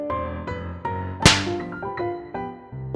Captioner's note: slaps